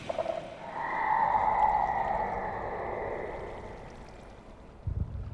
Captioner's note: Shrieker noises